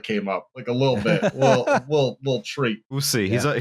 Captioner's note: laughs